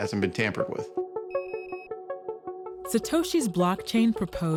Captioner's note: beeping